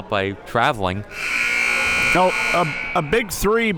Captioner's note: buzzer blares